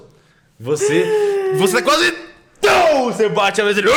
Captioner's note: inhales; pow